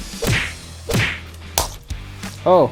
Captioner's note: crack